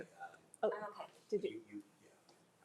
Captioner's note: student faintly speaking